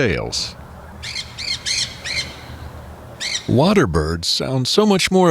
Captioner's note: SFX: Parakeets shrieking